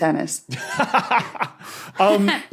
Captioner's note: laughs heartily; laughs